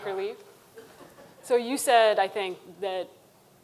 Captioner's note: audience chuckling